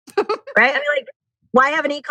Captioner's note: laughs